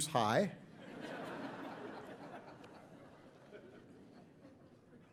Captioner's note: audience laughing